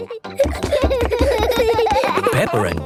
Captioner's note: both giggling